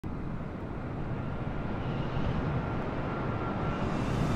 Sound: wind / waves sound; a320neo flyby sound

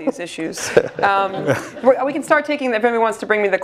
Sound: laugh

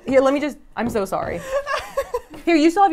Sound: laughs

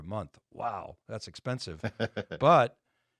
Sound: laughing

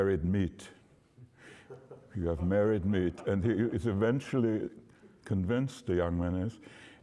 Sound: laughter

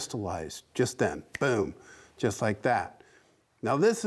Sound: snaps fingers

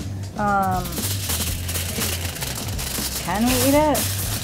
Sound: foil crinkling

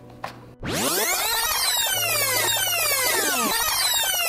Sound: electronic rewinding

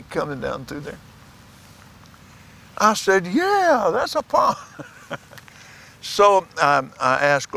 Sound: laughs

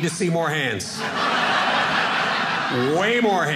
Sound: audience laughing

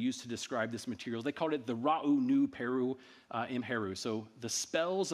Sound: speaking in ancient Egyptian

